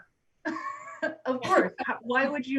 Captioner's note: loud laughs